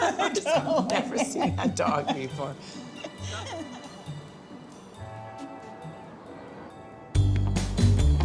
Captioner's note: laughter; laughter